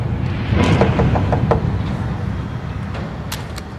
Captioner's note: knocking on door